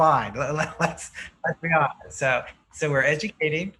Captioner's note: laughs